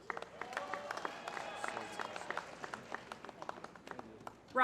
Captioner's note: applause